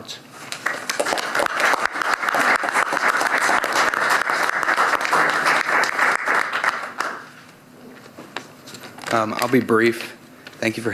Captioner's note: applause